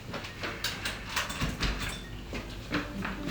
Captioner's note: door locking